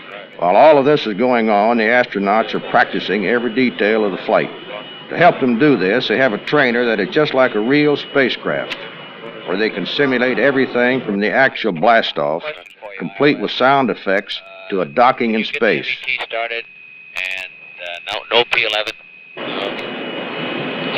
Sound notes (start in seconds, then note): 17.0 Ambient electronic sounds and voices of NASA engineers and astronauts; 19.5 Voices of NASA engineers and astronauts; 20.8 ambient electronic sounds